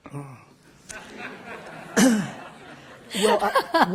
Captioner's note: laughter